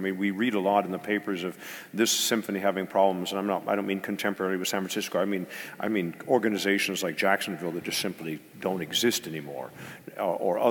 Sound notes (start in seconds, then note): none